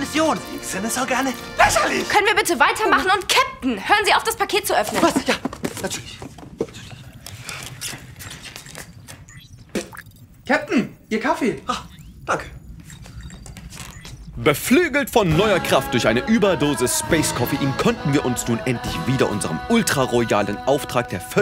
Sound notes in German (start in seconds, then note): 6.5 flüstert; 9.4 spucken